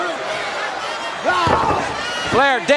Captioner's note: Sting exclaiming